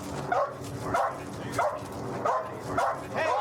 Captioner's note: dog barking